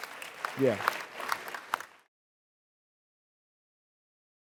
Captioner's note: audience applauds